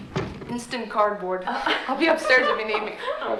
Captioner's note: Mrs. Borden laughs